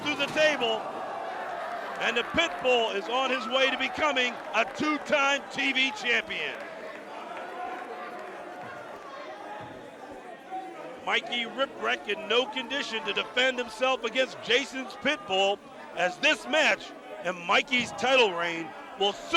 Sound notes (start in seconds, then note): 3.8 crowd cheering; 12.4 crowd chatter